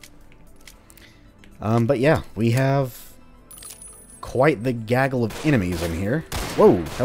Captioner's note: crack